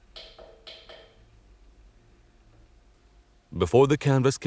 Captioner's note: object tapping